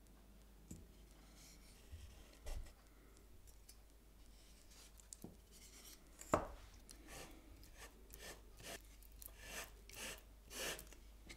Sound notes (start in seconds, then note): 7.7 spatula scratching